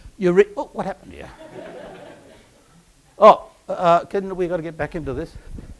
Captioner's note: laugh